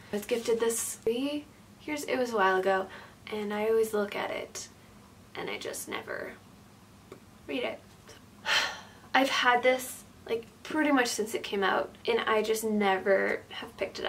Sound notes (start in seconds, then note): 8.4 sighs